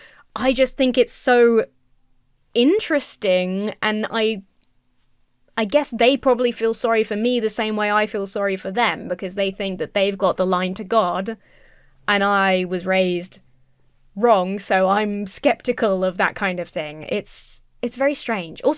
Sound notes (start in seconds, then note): none